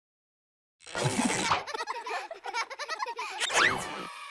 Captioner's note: children laughing